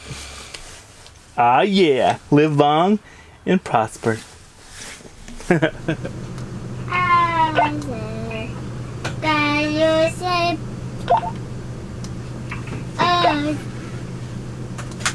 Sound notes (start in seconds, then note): 6.9 vocalizing; 11.2 walkie talkie beeping